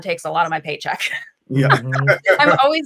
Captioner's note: laughing